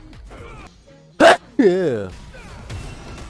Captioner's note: sneeze